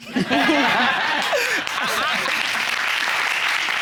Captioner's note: crowd laughing